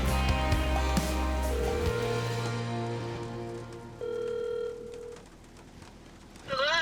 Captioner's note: phone ringing